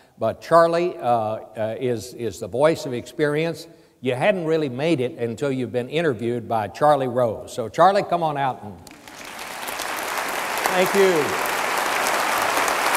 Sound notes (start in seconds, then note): 8.8 audience applauds